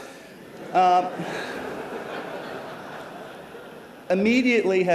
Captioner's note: laughter